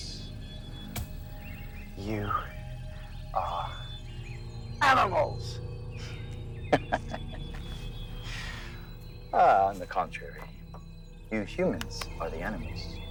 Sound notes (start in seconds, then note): 6.6 vampire laughing